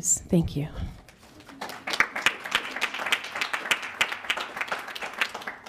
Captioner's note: audience clapping